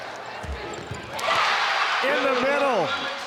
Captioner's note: audience cheering